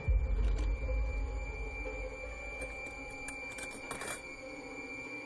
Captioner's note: metal scraping